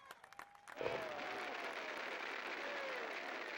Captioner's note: applause